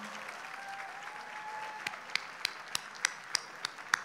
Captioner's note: audience cheers